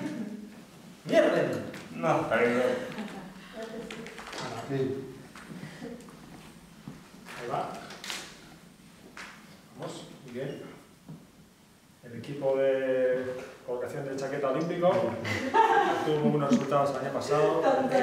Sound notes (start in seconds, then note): 2.6 giggles; 9.7 imitating a sports commentator